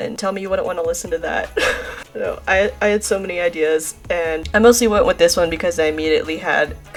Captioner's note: laughs